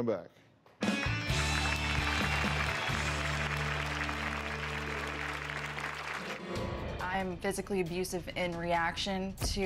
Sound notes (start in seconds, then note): 4.0 applause